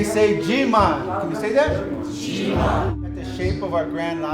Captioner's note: crowd